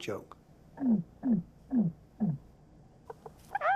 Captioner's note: rhythmic hooting; clucking